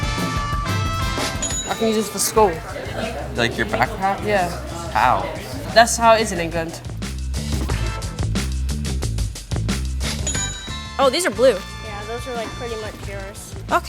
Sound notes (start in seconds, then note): 1.4 register bell rings; 10.2 register bell rings